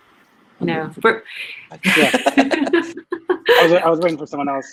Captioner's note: everyone laughs